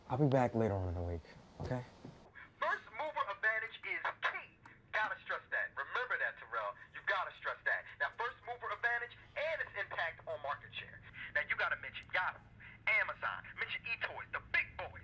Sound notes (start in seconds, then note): 3.0 voiceover